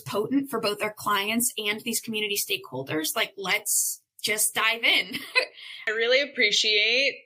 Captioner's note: chuckle